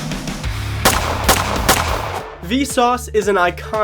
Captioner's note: gunshots